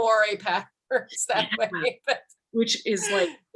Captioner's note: laughter drowns out speaker